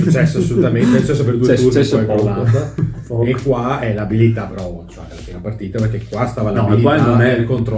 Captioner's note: laughter